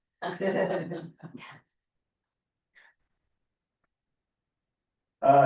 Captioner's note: board members laughing